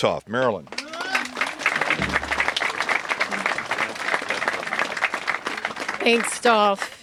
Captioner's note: applause